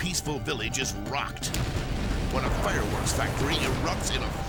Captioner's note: explosion booms